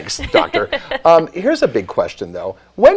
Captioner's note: both laughing